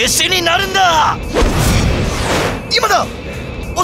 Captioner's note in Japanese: 効果音